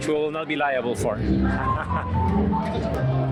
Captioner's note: laughs